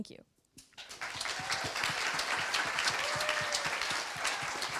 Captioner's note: applause